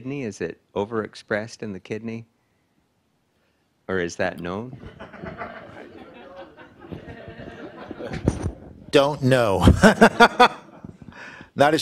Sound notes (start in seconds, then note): 4.8 participants laughing; 9.7 everybody laughing